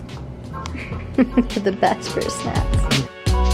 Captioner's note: chuckling